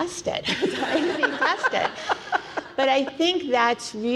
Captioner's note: panelists laughing